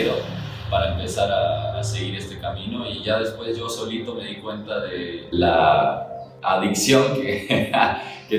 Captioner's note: laughs